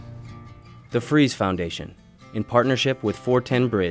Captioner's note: voiceover